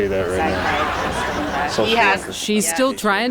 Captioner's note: audience laughing